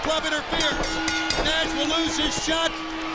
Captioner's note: bell rings